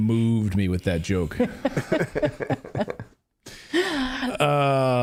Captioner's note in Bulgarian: Смях